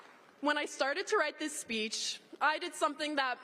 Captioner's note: applause